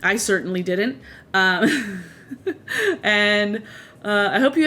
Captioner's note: laughs